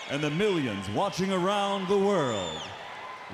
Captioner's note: crowd cheering